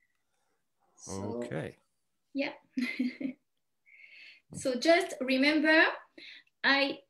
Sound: chuckles

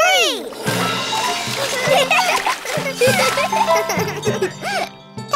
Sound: giggling

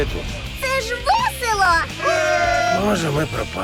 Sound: group cheers

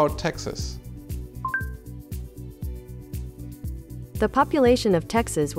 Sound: high beep

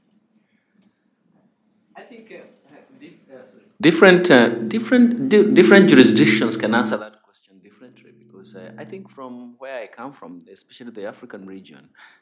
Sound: off mic

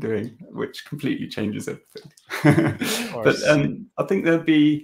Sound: laughing

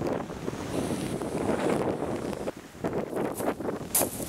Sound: wind

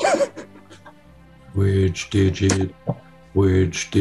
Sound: sniggering; low pitch

